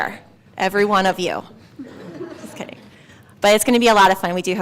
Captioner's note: laugh